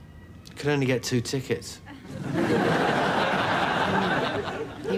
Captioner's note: audience laughs